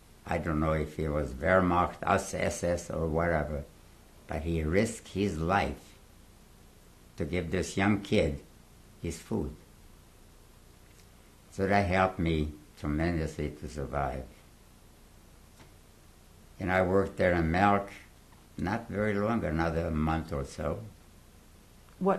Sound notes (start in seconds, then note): 13.9 pauses for 3 seconds